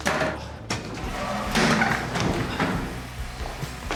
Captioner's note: toilet flushes